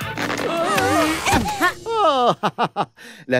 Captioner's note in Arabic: صوت ضحك "الراوي"